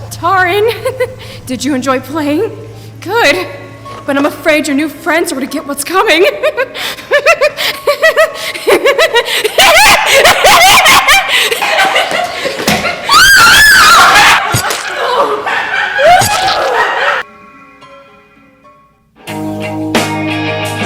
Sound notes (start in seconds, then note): 6.4 Mooshie laughing hysterically; 13.0 Avery screams; 14.2 Mooshie laughing; 16.0 all exclaiming; 16.2 slashing sounds